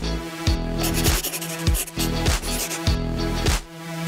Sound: pencil writing

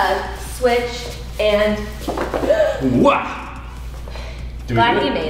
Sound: sighs

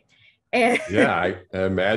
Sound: laughs

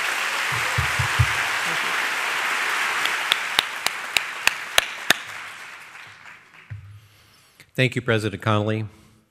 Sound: applause

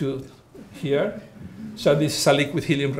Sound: audience laughing

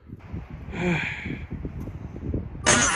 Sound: sigh

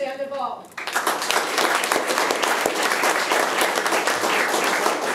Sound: room applauds

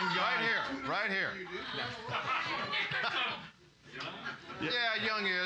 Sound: audience shouting

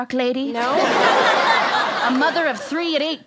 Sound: audience laughter

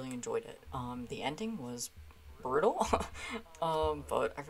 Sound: laughing

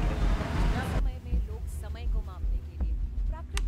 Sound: radio Playing

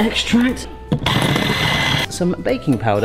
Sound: electric whisk wiring

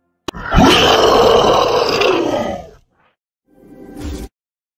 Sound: loud Growl

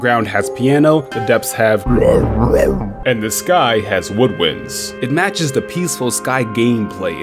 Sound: warble sounds

